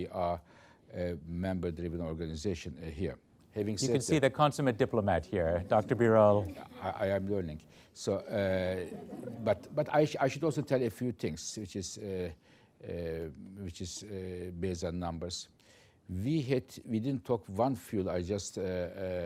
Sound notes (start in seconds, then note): 6.1 laughter